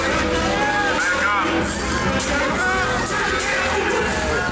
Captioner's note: crowd noises